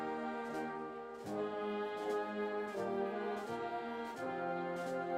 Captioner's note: none